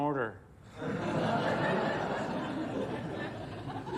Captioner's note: audience laughing